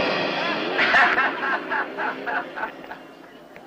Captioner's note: laughter